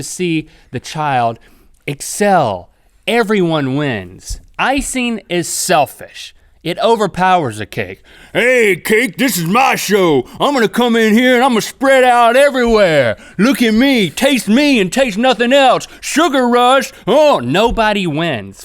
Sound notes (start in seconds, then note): 8.0 deeper, raspy voice